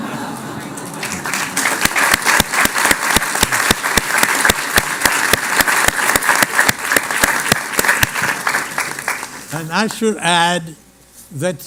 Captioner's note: laughter and Applause